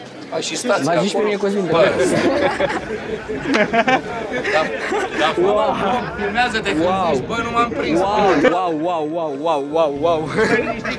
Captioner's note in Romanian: Râsete